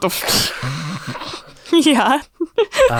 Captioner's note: laughs